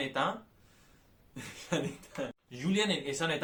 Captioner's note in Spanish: risas